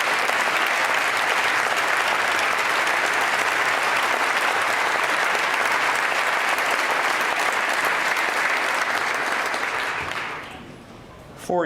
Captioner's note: applause